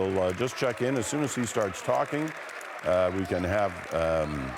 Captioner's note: applause